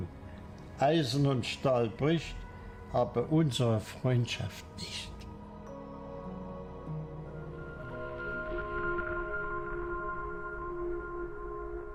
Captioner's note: speaks German